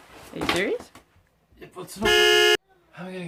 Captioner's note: car horn